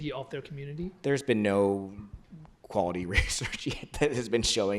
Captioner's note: laughs